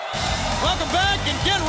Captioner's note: crowd cheering